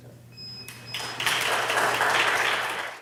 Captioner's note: audience claps